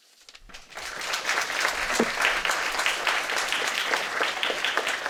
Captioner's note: audience applauding